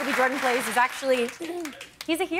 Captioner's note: cheers and applause